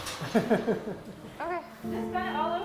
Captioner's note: laughs